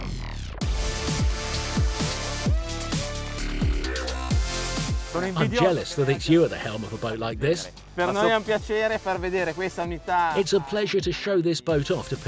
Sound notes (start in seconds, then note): 8.2 speaking in foreign language